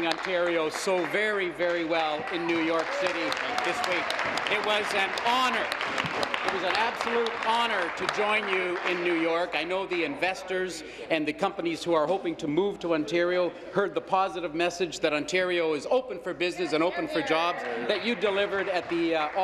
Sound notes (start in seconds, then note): 8.0 applause